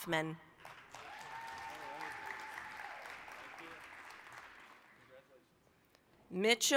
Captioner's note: applause